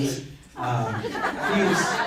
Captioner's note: crowd laughs